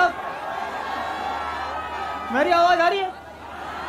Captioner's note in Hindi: चियरिंग